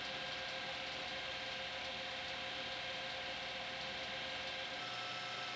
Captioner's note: lathe whirring continues